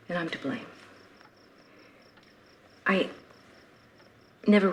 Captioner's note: none